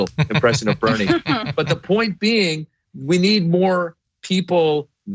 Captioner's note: laugh